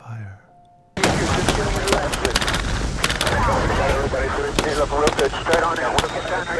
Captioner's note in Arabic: ثرثرة عسكرية عبر الراديو; إطلاق نار